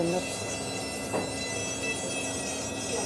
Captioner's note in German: Schleifgeräusche